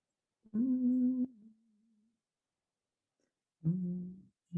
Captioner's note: humming